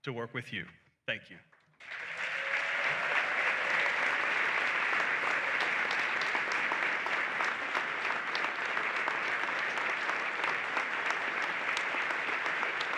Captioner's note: applause and cheering